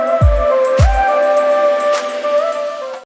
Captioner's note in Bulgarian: Пляскане